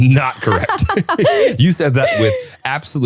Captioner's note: laughing